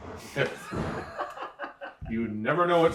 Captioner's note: laughing